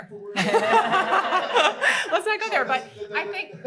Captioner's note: laughter